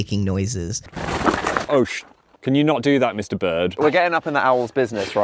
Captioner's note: loud fluttering noise